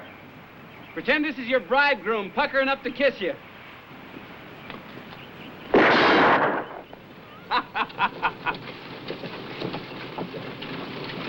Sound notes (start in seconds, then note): 5.7 gun firing; 7.4 Tom laughing